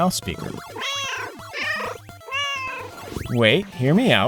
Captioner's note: meow